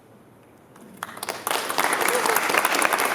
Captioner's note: applause